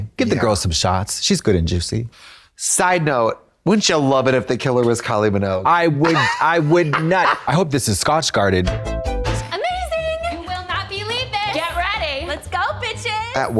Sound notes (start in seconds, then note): 7.0 Trixie caws; 8.8 synth bop